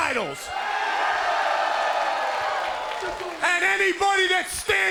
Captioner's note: cheers & applause